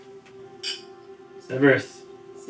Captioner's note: glass clinking